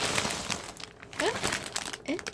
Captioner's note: surprised sounds